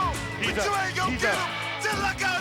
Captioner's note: person yelling